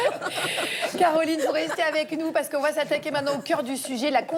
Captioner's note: laughter